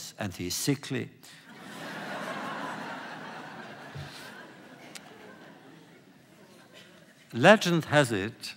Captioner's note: laughter